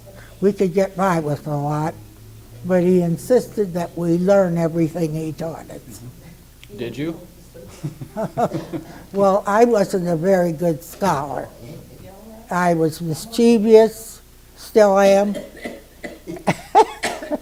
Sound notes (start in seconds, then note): 7.6 laughing; 7.6 laughs; 15.2 laughs - coughing in background